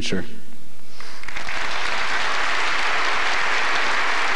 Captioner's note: applause